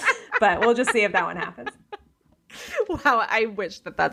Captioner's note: laughing